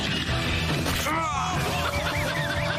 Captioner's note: laughing; groans